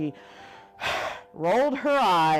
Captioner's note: sighs